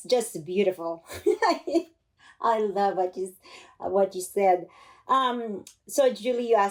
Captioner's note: laughter